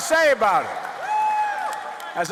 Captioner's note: cheering and applause